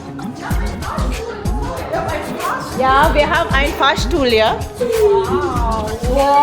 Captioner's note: speaking German